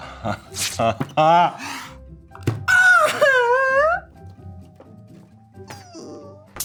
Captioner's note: mustache rips; cries